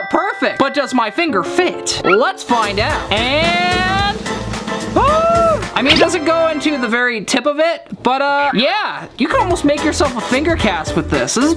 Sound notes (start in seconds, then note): 2.6 drum roll; 4.2 gasps